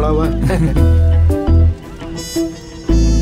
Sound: laughing

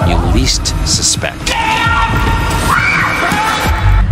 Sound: screams

